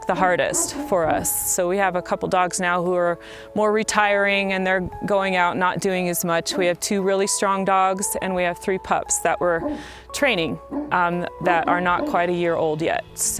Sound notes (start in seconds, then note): 0.1 barking; 10.2 barking